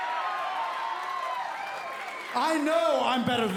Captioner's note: cheers & applause